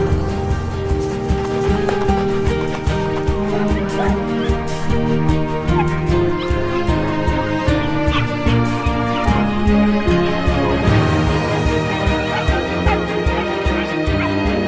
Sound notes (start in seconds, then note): 3.9 dogs barking